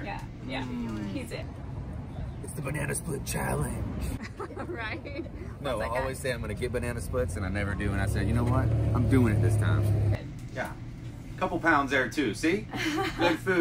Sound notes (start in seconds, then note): 4.1 laughing; 12.7 laughing